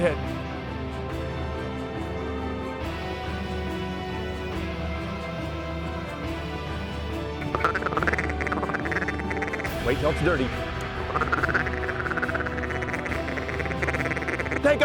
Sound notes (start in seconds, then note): 6.8 duck calls